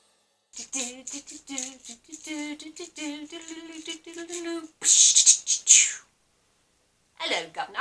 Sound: humming one-man-band music from mary poppins, sorta

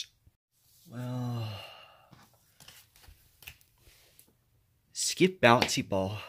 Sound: yawns

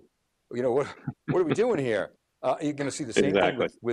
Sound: laughs

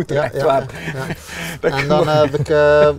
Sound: chuckles

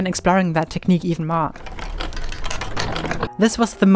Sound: scratching sound

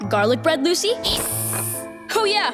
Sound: hissing

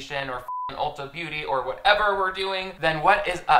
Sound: beeps

